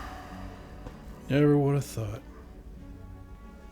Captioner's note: sighs